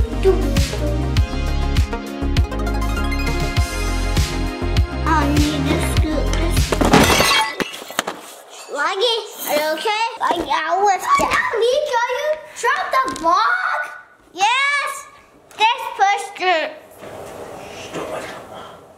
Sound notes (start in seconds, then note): 0.0 energetic music; 6.8 glass shatters; 11.0 screams